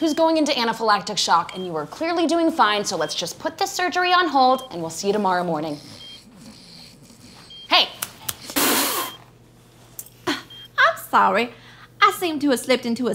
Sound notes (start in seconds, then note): 8.0 finger snapping; 8.3 spraying